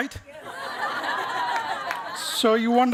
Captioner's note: chuckling